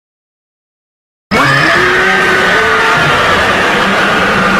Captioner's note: screaming